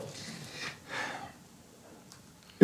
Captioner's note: sigh